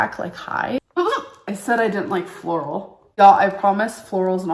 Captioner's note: laughs